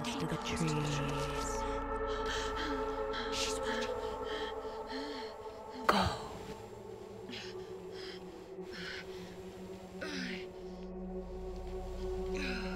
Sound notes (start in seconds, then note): 0.2 ghostly Voice 2; 2.0 Brigit panting; 6.3 ghostly Voice 2; 6.9 Brigit panting